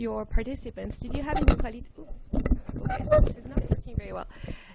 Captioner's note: microphone cuts out